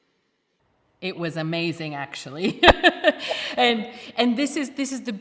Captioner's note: laughs